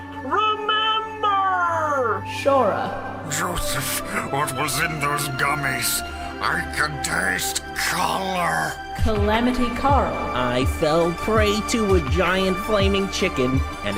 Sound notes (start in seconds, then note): 3.3 baby Dragon voice; 10.4 singing